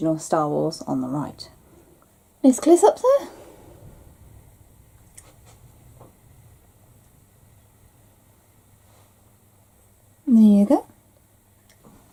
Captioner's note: pause